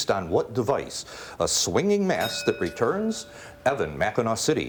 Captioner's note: bell rings